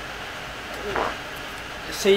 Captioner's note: fart